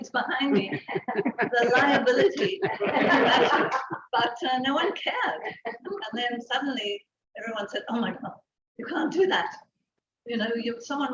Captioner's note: laughter